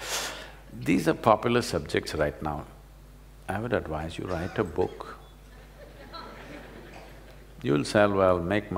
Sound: laughter

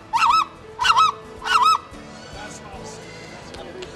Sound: bird calling

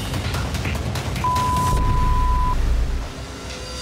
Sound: beep

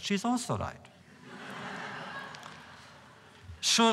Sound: laughter

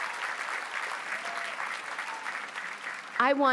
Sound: applause

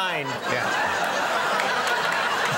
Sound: audience laughs

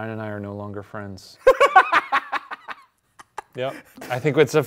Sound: laughs

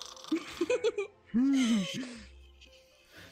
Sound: snoring

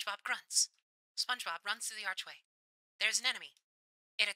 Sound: radio Filter

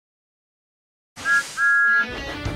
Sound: thomas whistles

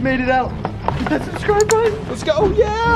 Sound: click

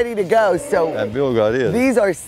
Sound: cows mooing

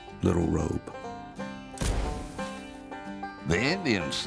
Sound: flash bulb pops

